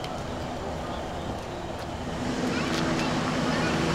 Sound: engine running; car trunk closing

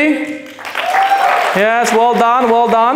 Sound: claps

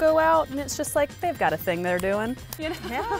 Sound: laughs

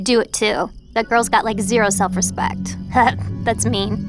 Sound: laughs

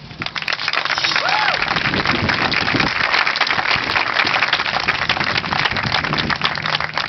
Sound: applause

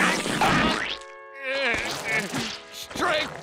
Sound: groaning

